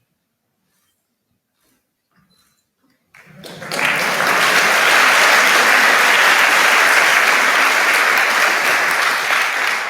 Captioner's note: applause